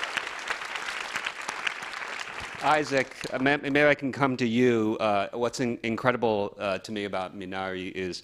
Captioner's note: applause